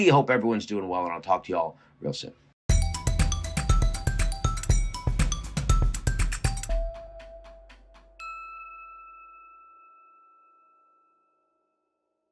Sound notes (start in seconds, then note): 2.7 upbeat music; 8.3 logo dings